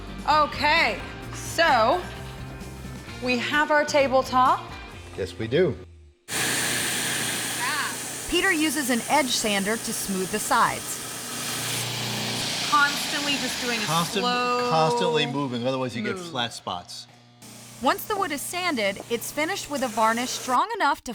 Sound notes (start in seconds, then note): 6.2 sanding, grinding sound